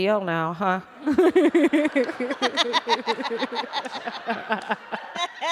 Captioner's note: laughter